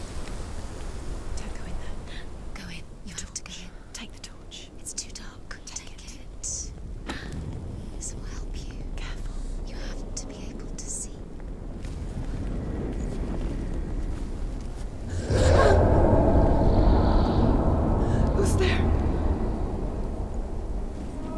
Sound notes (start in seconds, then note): 1.4 whispering; 7.1 gasp; 7.4 whispering; 15.1 loud roar; 18.0 gasp; 21.1 distant scream